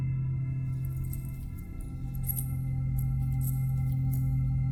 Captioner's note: necklace jangling